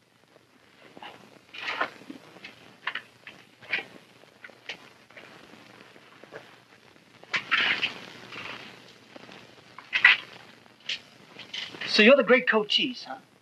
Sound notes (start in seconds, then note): 0.9 footsteps